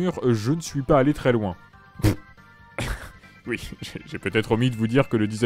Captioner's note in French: Pouffe